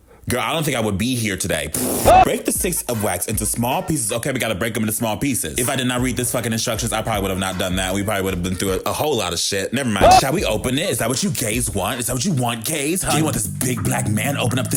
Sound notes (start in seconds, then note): 1.6 man yells echoing; 1.8 blows raspberry